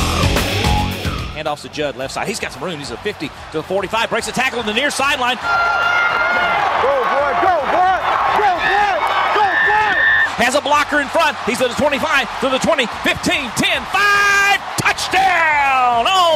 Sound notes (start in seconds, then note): 0.0 rock music; 1.5 voiceover; 10.3 voiceover